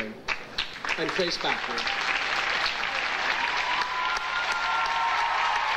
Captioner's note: audience applauds and cheers